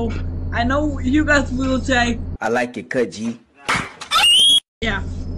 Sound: screams

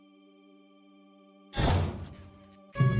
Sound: heavy door slams shut

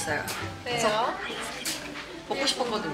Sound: whisper

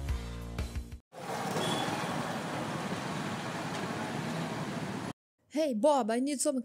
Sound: city noises

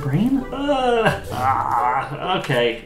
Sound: sounds of disgust

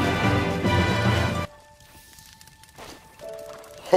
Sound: music stops

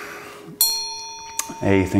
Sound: ding

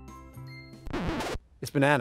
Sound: record Scratch Sound

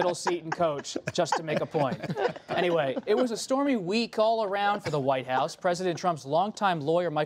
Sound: laughter

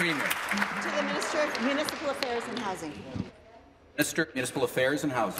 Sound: applause

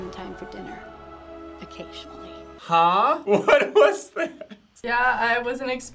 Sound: laughs

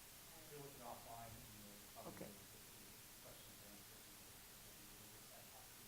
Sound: trustee speaking quietly

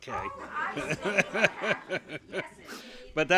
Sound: laughter & Inaudible Remark

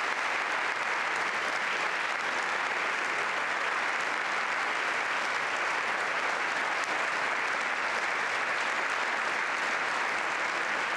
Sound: applause

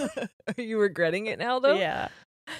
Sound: both laughing

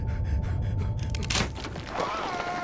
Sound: gasping; Kojo yells

